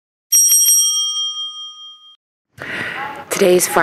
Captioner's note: bell rings